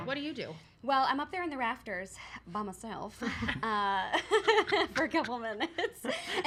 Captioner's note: laughs